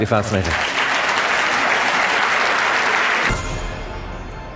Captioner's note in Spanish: Aplausos